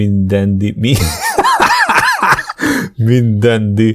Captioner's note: laughs out loud at EVERYBOBY